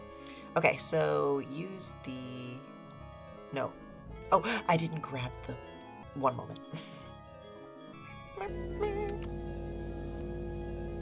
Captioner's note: gasps